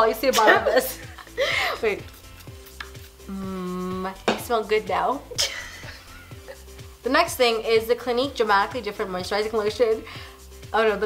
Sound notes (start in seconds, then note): 5.4 laughing